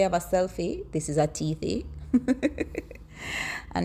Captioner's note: aughs; laughs